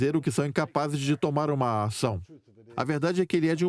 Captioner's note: voiceover